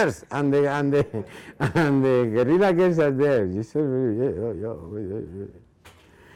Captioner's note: speaking in foreign language